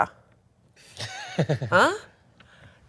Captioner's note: laughs